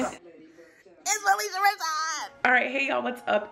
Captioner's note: squeals